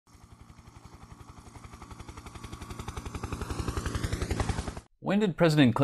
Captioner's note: helicopter in flight